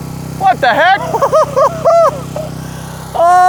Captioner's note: laughs